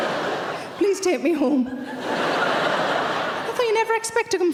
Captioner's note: laughing